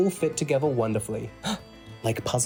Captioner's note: gasps